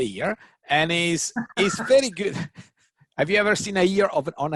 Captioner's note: laughs